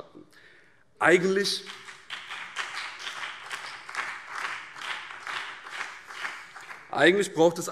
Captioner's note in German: Beifall